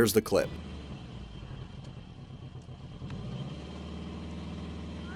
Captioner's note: engine rumbling